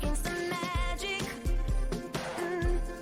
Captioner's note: humming